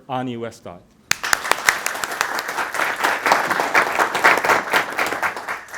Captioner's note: audience applauding